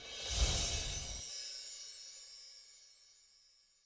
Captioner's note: twinkle